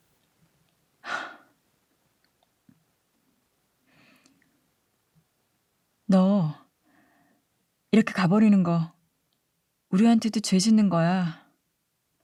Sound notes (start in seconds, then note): 1.0 sigh